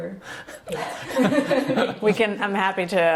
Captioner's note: laughs